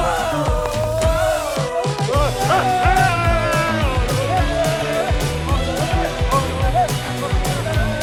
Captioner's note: cheering